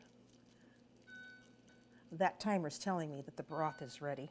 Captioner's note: beeping